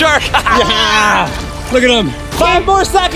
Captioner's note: laughing